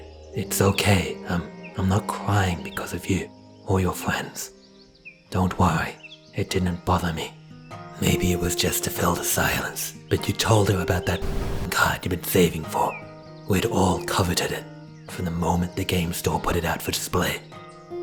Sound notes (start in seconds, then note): 11.1 static